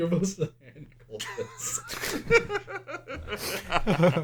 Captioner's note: laughter